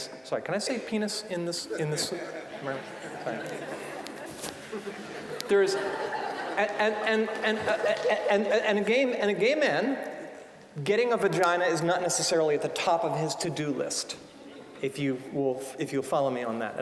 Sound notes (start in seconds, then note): 1.7 audience laughing